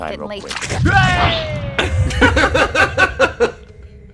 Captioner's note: wheeeey!